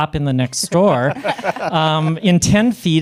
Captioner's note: panelists laughing